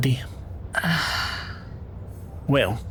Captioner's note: sighs